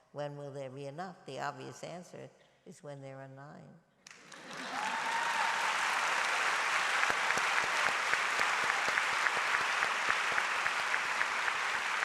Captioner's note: applause